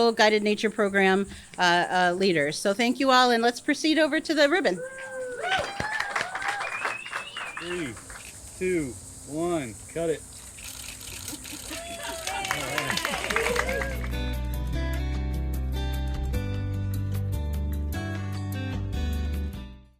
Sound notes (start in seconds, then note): 4.8 audience cheers and applauds; 10.4 cameras clicking; 11.4 audience cheers and applauds; 13.4 gentle music